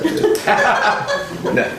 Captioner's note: laughter